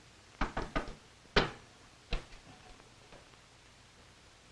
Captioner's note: knock on door